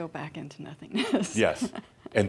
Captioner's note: she chuckles